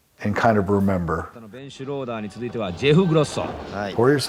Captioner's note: speaking in foreign language